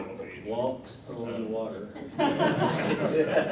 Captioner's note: laughter